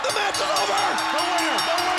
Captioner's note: bell rings